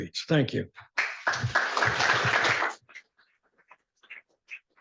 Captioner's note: applause